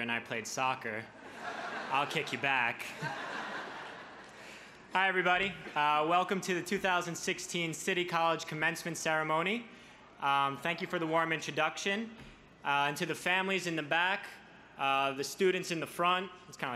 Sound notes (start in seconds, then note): 3.0 crowd laughs